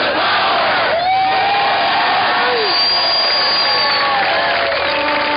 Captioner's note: cheering and applause